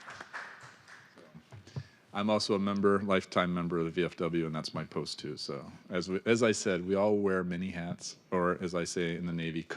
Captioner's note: applause